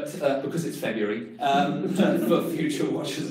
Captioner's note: class laughs